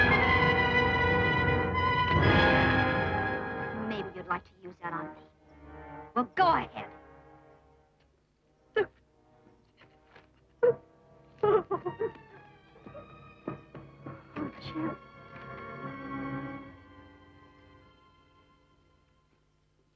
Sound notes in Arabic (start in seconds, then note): 0.0 موسيقى درامية; 8.7 إيفلين تبكي